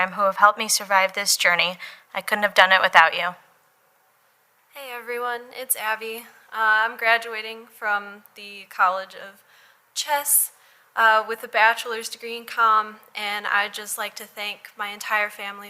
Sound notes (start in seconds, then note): none